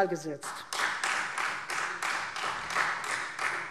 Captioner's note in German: Beifall Freie Demokraten